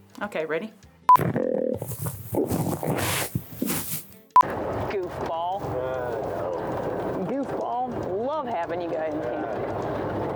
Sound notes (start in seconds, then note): 1.2 grunt call croaking